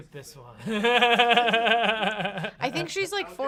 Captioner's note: laughs